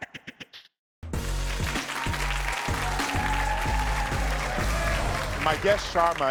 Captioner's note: audience applauding